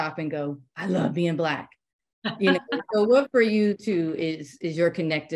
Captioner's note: laughter